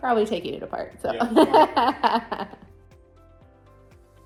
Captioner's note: laughs; bright music